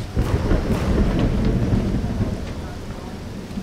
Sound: thundering

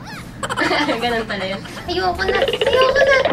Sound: laughs

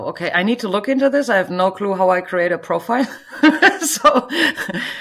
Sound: chuckles

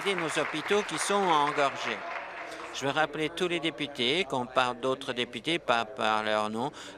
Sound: applause

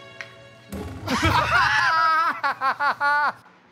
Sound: Murr and Sal laugh

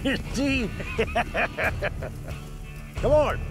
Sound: laughter

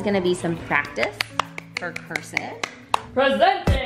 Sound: clapping

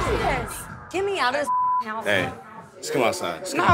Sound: beep

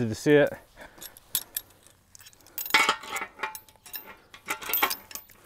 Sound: tools clinking

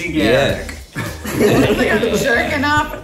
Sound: laughing

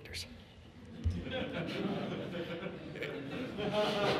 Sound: audience laughs

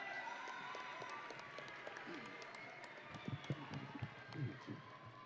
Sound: audience and graduates cheering

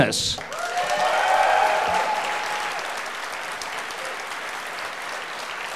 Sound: audience applauding; audience cheering

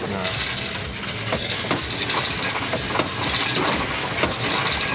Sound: coins rattling

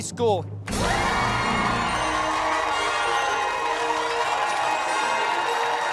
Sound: cheers and applause

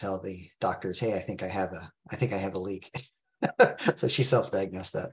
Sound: laughs

